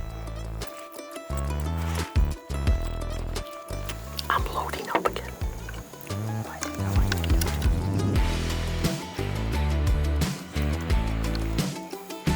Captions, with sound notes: (zipper ripping) - I'm loading up again. (upbeat music)